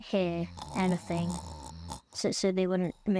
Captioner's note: snoring